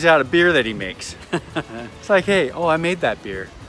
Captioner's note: laughing